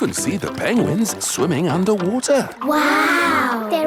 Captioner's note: none